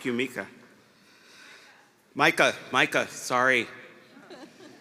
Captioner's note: laughter